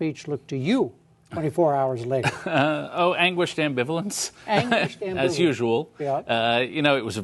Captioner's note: laughter